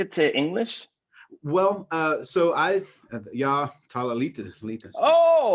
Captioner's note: speak in Swedish